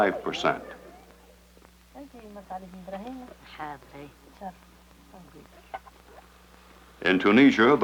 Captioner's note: inhabitants speaking Arabic